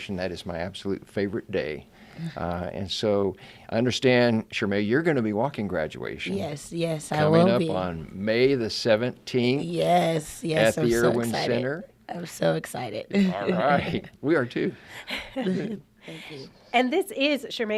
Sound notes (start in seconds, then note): 15.0 laughs; 15.0 laughing in unison